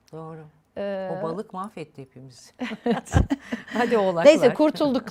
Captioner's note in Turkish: kahkaha